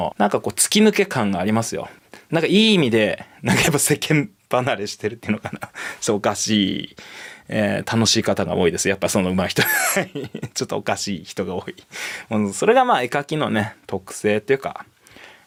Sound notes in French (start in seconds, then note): 9.6 rires